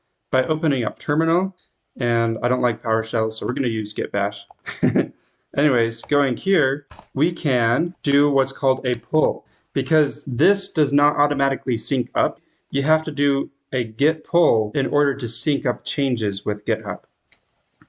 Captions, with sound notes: By opening up terminal, and I don't like PowerShell so we are going to use Git Bash. *chuckles* Anyways, going here we can do what's called a pull, because this does not automatically sync up. You have to do a git pull in order to sync up changes with GitHub.